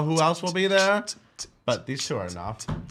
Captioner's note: beatboxing